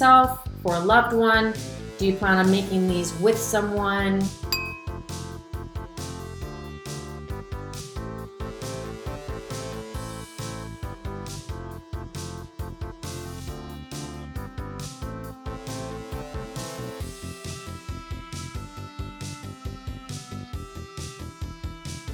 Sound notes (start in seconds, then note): 4.5 dinging; 6.3 upbeat music